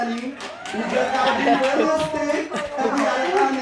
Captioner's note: audience applauding